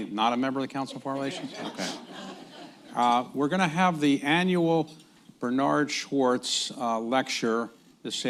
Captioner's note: laughter